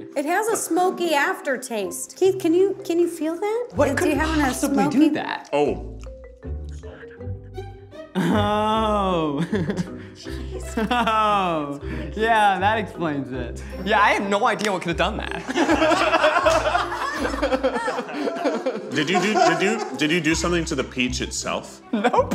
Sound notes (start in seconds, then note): 6.4 whispering; 9.3 chuckles; 15.3 group laughs